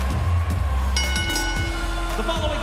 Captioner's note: bell ringing